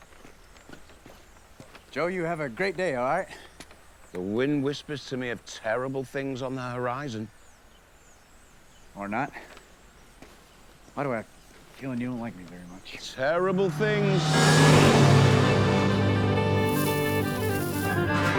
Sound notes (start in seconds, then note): 13.1 car zooms; 18.2 upbeat bluegrass music